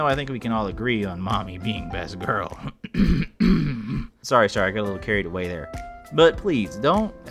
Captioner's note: cough